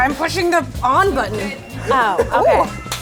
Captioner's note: beeping